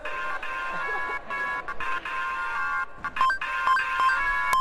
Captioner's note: laughter